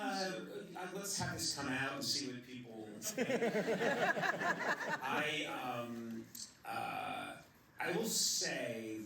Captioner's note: laughter